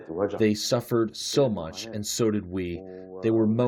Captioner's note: through translator